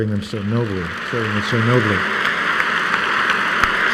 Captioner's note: applause